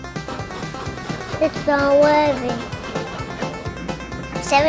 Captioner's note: energetic music; train huffing